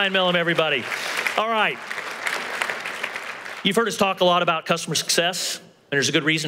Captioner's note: applause